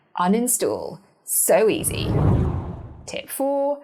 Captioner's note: air whooshing